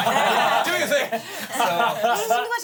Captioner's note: everyone laughs